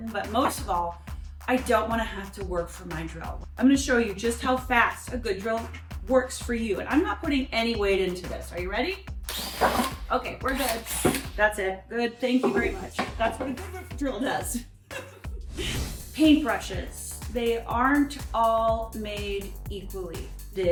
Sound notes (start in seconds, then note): 9.2 drill whirring; 14.9 laughs